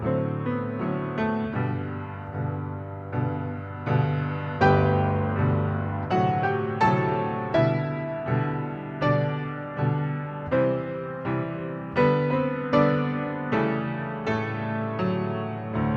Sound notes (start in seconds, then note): none